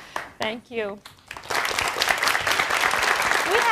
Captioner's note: applause